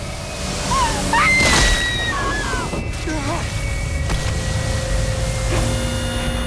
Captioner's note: driver screams; Christina screams; body thumping; machine whirring